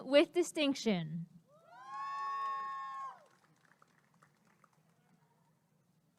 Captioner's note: applause and cheering